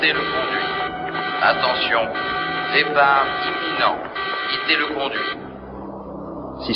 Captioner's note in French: Voix Robotique Masculine